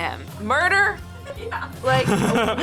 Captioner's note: laughs